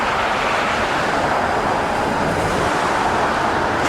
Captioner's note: more Loud Traffic Noise